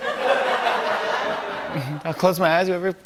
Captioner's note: laughter